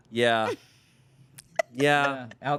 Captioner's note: laughs